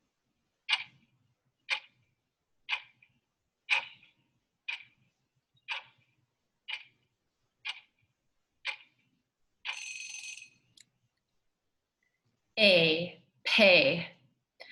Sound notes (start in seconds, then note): 0.1 clock ticking; 9.7 bell rings